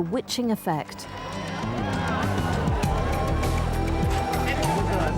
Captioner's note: crowd cheering; soft music